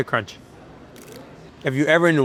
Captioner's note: food crunching